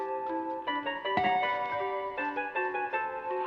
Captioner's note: doorbell